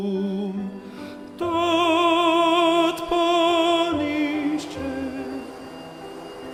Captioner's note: vacuum cleaner running